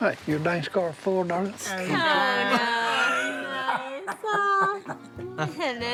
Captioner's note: laughing